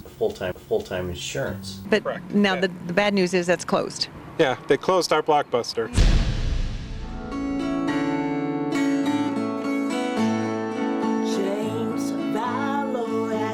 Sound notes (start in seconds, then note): 5.9 dramatic thud; 7.0 upbeat music